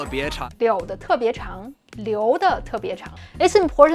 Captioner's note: speaking in Mandarin